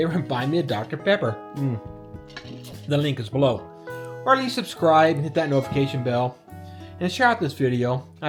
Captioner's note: mmm